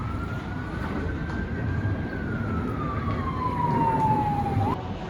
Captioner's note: police siren